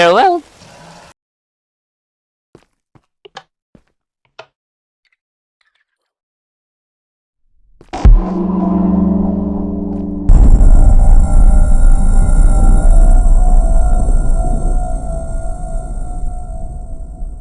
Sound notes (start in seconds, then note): 2.2 click; 2.2 curious Footsteps; 7.9 ancient Door Opens; 17.2 curious Footsteps; 17.2 lightning Roars